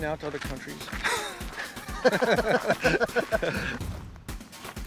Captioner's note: laughing